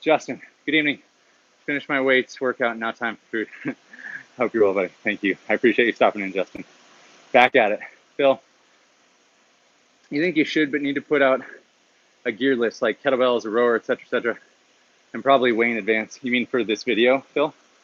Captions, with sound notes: Justin, "Good evening, finished my weights workout "and now time for food." (laughs) Hope you're well, buddy, thank you. I appreciate you stopping in, Justin. Back at it. Phil, "You think you should "but need to put out a gear list, "like kettlebells, a Rower, et cetera, et cetera, "and probably way in advance." You mean for this video, Phil?